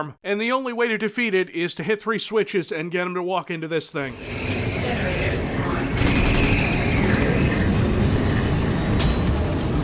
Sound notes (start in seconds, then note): 4.7 computer voice